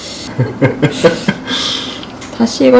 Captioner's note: laughing out loud